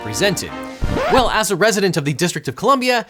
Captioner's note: record scratching